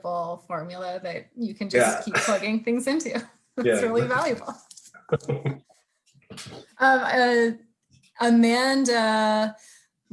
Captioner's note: laughing; laughing; laughter